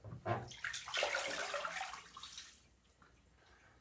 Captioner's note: water splashing